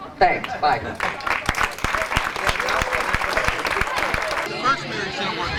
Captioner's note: clapping